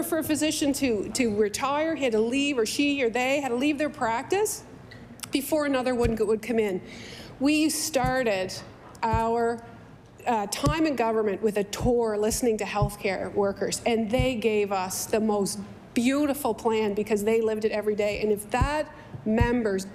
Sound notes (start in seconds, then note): none